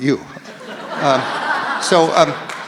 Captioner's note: audience laughs